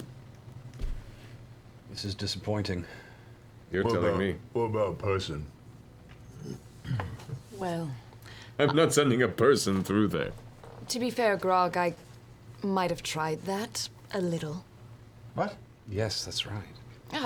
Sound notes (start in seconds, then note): 7.4 laughing